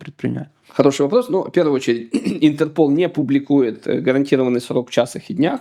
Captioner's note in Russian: откашливается